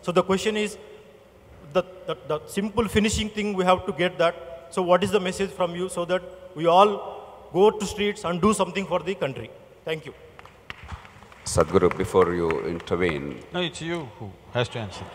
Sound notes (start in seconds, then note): 10.6 applause